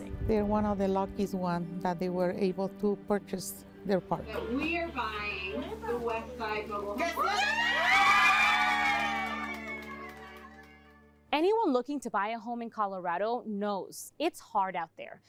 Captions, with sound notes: - They're one of the lucky ones that they were able to purchase their park. - We are buying the Westside Mobile Home-- [cheering] - Anyone looking to buy a home in Colorado knows it's hard out